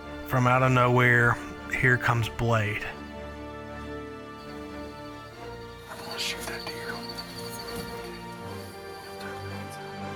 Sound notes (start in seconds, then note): 6.3 whispering